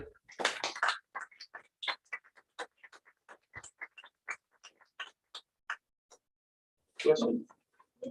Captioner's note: applause